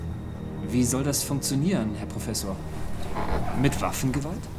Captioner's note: speaking in German